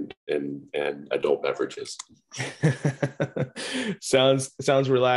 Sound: laughs

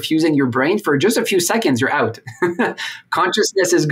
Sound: laughs

